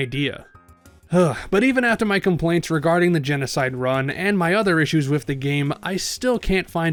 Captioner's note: sigh